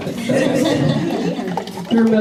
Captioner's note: laughter